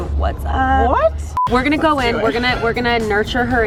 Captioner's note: beeping